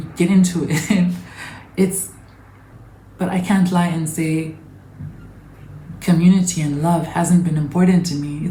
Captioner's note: giggles